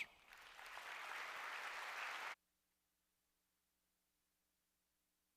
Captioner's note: applause